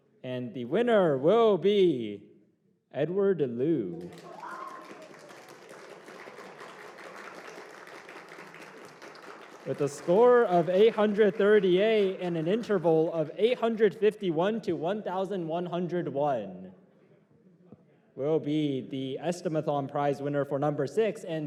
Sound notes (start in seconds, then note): 6.4 applause